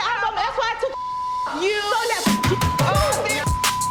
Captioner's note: beep; rhythmic music